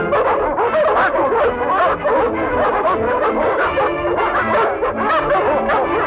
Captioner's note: barking